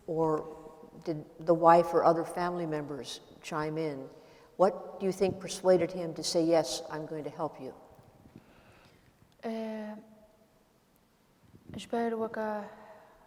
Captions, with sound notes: Or did the wife or other family members chime in? What do you think persuaded him to say yes, I'm going to help you? [SPEAKING KURDISH]